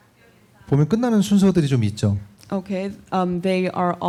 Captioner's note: speaking korean